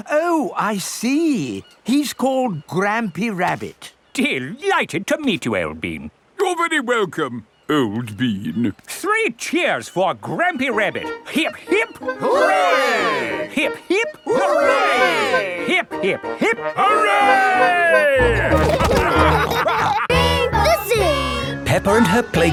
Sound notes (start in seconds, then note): 18.2 all laughing